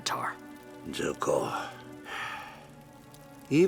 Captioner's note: sighing